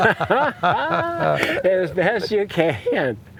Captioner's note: laughter